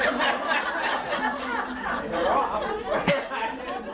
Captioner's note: audience laughter